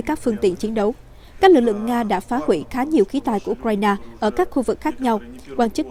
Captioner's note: Ukrainian